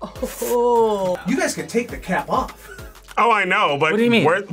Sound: laughs; laughs

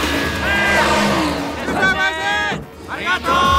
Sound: tires squealing; screams

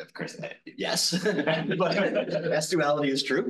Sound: laughing

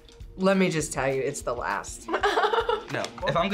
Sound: laughs

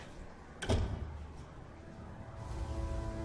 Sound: door closing

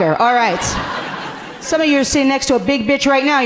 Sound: audience laughing gently

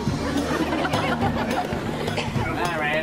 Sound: audience Laughs

